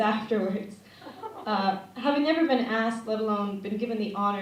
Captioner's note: laughter